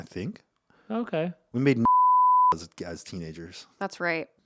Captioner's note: beep